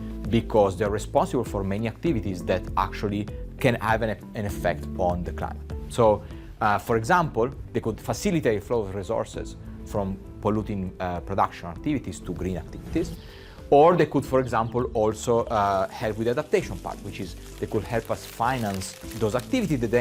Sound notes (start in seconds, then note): 13.0 screen whooshing; 14.0 birds singing; 15.5 rain pitter-pattering; 19.2 leaves crinkling